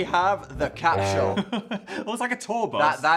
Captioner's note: horn honks sadly; Phil laughs